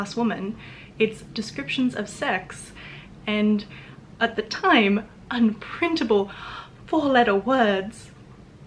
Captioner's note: gasp